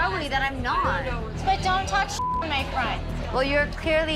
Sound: beep

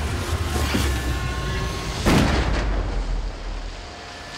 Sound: gunshot

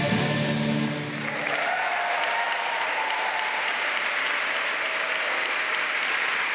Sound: audience cheering and applauding

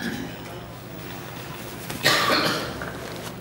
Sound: coughing

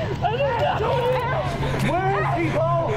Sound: shouting

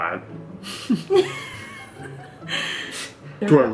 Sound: laughs

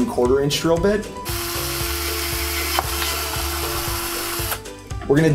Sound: drills hole

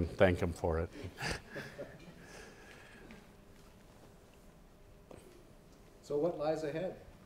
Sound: laugh

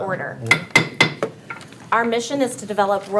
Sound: gavel banging

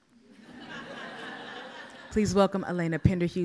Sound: audience laughs

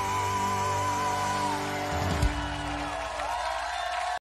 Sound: cheers and applause

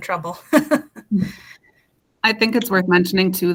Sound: laughing

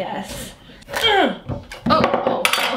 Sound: grunts

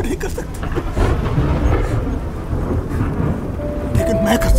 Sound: thundering

